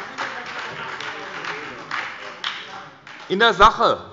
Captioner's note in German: Beifall bei der SPD und der LINKEN